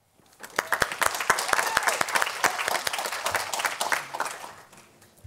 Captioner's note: audience applauding